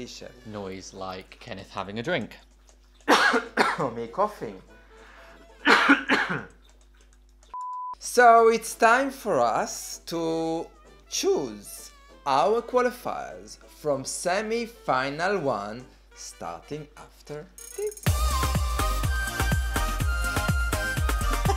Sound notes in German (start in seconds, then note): 3.0 hust; 5.4 hust; 7.5 piep